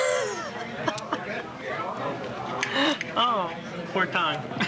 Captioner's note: laughing